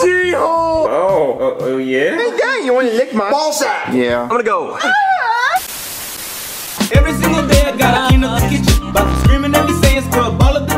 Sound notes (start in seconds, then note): 4.8 Jeffy screaming